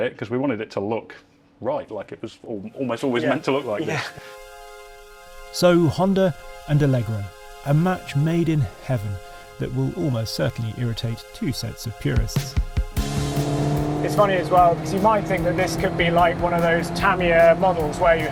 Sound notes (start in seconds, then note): 12.9 engine roaring